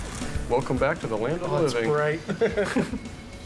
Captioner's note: laughs